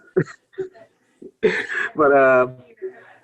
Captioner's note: laughs